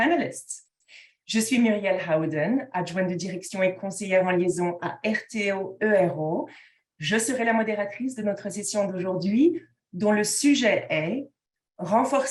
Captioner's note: speaking in French